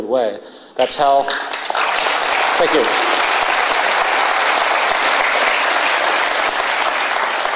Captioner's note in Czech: potlesk